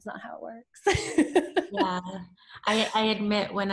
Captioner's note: laughs